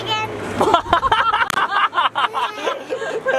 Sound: laughter

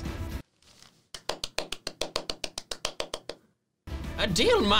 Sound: applauds

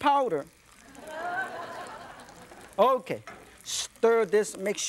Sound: audience laughs

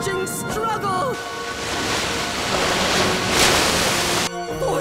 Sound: waves crashing

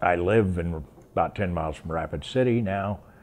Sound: none

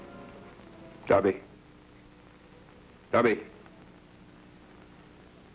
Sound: speaking in foreign language

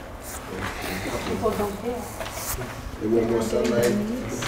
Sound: students mumbling

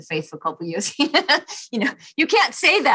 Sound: chuckles

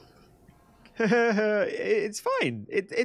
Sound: nervous laughter

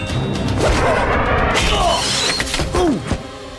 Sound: grunting

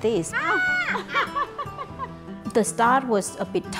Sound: laughing

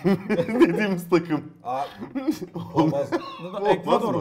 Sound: laugh

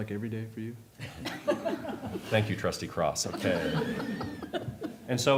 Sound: laughter

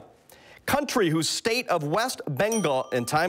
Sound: bell rings

